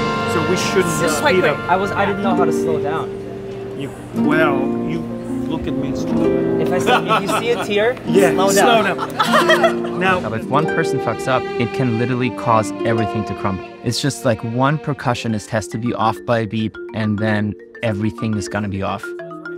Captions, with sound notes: So we shouldn't speed up. - It was quite quick! - I was, I didn't know how to slow down. You... well, you look at Maestro. If you see a tear, slow down. Yeah, slow down. [laughing] If one person fucks up, it can literally cause everything to crumble. It's just like one percussionist has to be off by beat and then everything is gonna be off.